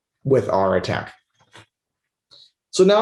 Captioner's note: mouse clicking